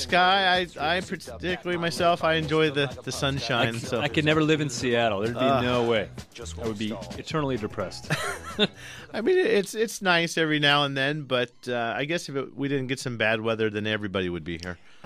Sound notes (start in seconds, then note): 8.1 laughs